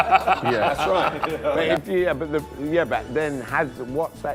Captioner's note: laughter